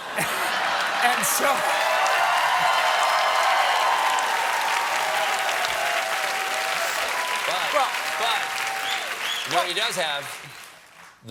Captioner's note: applause